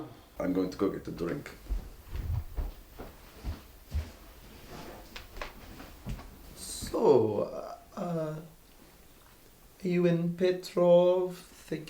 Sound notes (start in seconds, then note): 1.1 stomping footsteps; 5.3 footsteps